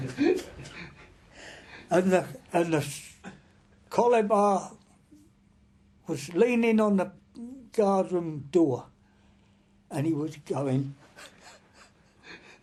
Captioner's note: laughing